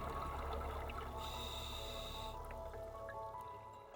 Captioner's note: breathing heavily